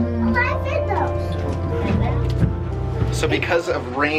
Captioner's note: children chatter